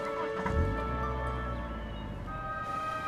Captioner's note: car revs